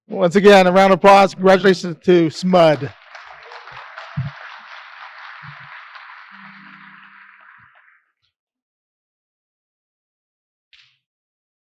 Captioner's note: applause